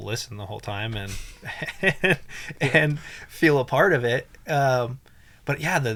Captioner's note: laughs